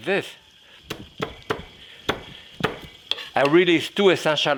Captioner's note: hand pounding